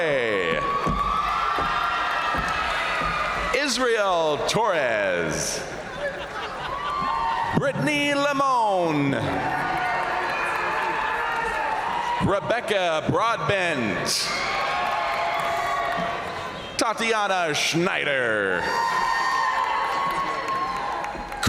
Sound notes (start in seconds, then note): 0.0 crowd applauding; 0.2 crowd cheering; 5.0 crowd cheering; 5.3 crowd laughing; 8.9 crowd applauding; 9.0 crowd cheering; 13.7 crowd cheering; 14.1 crowd applauding; 18.2 crowd cheering; 18.4 crowd applauding